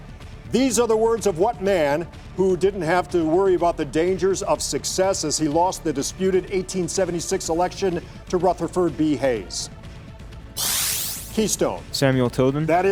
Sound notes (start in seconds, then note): 10.6 buzzer sounds